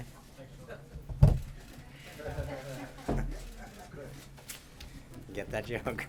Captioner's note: laughter